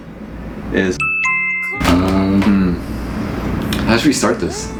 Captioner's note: ding dong